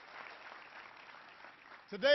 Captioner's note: applause